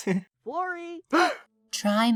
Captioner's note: the floor gasps